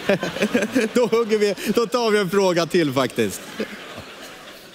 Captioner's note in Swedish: alla skrattar